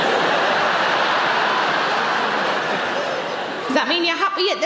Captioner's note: audience laughing